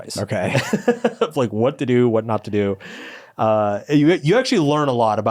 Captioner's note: laughs